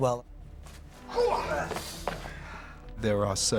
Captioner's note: oldman grunts